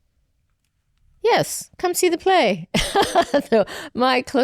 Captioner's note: laughs